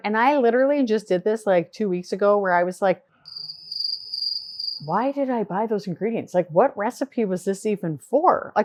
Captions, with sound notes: And I literally just did this like two weeks ago where I was like, (crickets chirp) why did I buy those ingredients? Like what recipe was this even for?